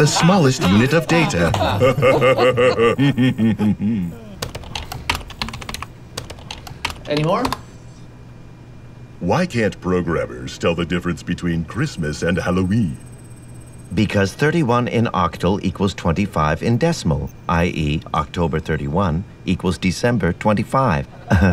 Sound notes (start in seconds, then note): 0.0 Calvin laughs; 0.0 laughs; 1.6 chuckles; 4.4 keyboard clacking; 21.1 both laugh